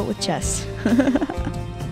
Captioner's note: laughing